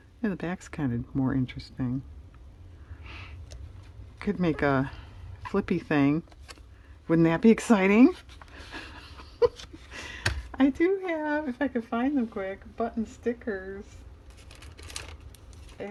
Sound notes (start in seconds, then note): 8.6 laughs